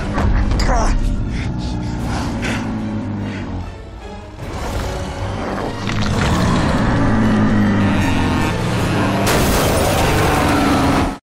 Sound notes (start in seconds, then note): 1.2 growling; 5.3 growling; 9.2 crash